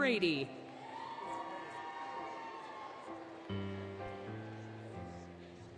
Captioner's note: applause, Cheering, Music